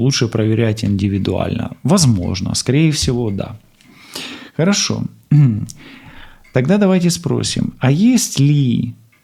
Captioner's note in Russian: откашливается